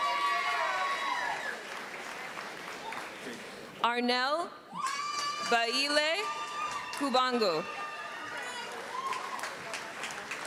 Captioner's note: applause